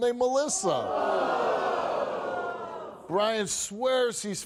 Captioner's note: audience groans